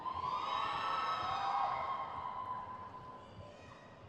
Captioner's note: crowd cheers